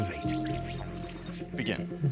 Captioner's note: electronic buzzing